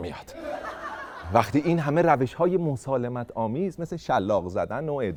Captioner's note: laughter